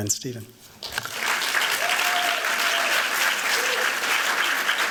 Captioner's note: applause